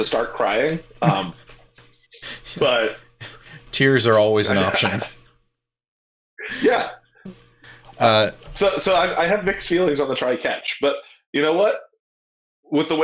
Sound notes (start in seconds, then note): 6.4 laughing